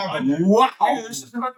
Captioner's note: speaking In Foreign Language